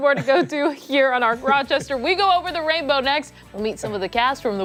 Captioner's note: laughter